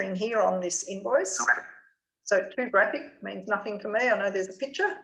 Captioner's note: JAWS screen reader speaks quickly